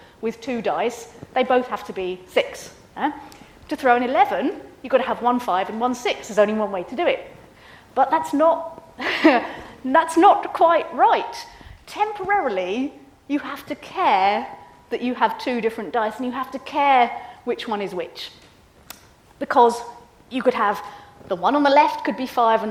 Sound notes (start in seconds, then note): 9.0 laughs